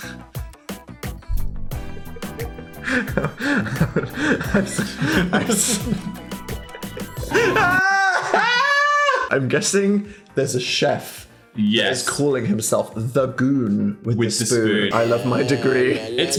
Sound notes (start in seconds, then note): 0.2 Dan laughs; 1.9 Dan and Phil laugh; 7.3 Dan yells